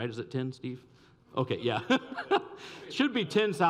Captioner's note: laughs